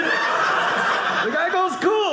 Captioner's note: audience laughing